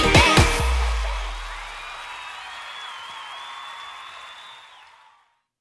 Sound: cheering

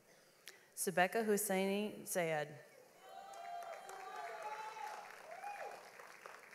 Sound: audience applauds

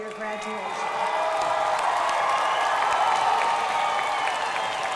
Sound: crowd applauding

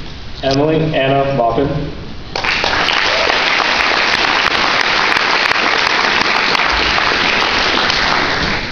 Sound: applause

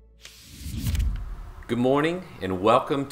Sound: logo whooshing

